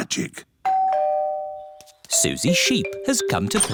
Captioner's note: doorbell